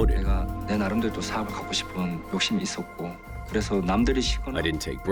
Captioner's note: speaking foreign language